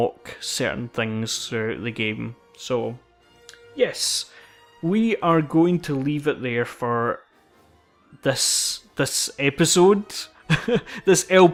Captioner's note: laughs